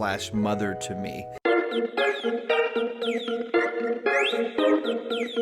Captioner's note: phone alarm ringing